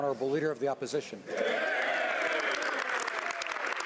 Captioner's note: speaking French